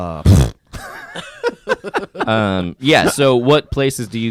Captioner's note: laughs